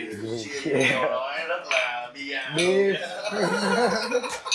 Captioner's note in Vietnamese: laugh